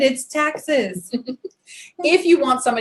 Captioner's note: giggles